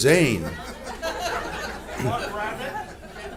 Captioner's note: laughs